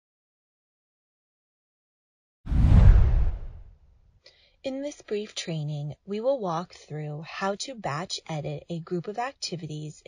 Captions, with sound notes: (whooshing) In this brief training, we will walk through how to batch edit a group of activities